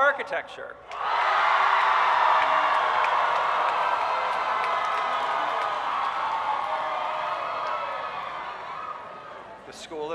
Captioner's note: cheering